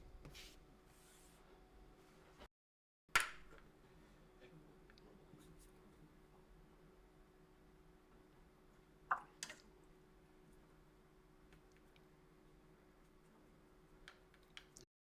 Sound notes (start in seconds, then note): 2.7 silence